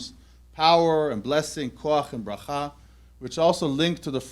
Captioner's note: hebrew